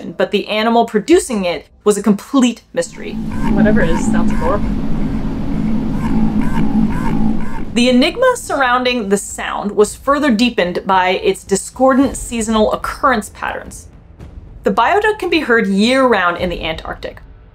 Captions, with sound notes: but the animal producing it was a complete mystery. Whatever it is sounds adorable (bio-duck sound) (noise abruptly fluctuating between low & medium pitch) The enigma surrounding the sound was further deepened by its discordant seasonal occurrence patterns. The bio-duck can be heard year-round in the Antarctic.